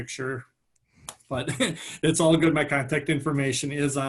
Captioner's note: laughing